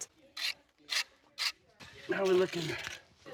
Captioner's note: metal scrapes